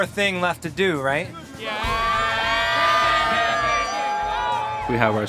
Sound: students cheering

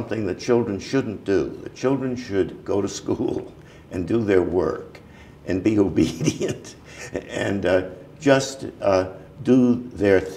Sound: chuckle

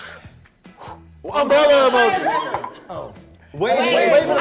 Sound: bell dings

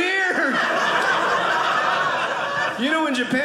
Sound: audience laughing

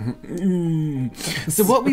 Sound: sounds Unsure

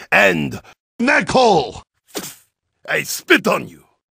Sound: spits

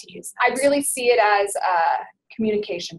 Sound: voiceover

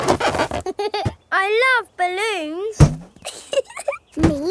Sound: chuckles

